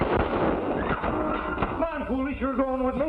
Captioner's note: screaming